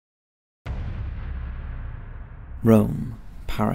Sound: bomb exploding

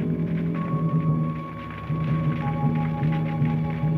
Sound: flames crackling

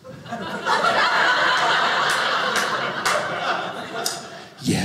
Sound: audience laughing

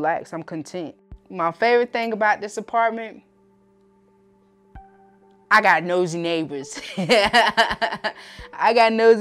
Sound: laughs

